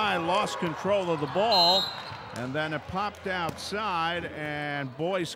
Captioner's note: whistle blows